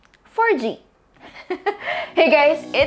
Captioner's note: laughs